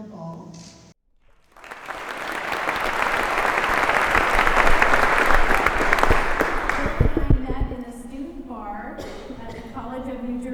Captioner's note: applause